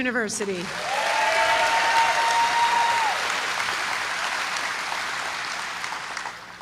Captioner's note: applause